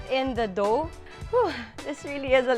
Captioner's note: sighs